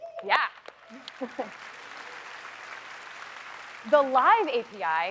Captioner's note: applause